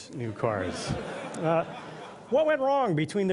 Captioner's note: laughter